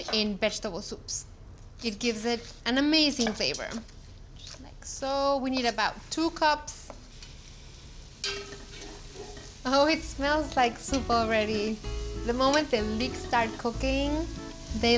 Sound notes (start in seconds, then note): 7.6 sizzling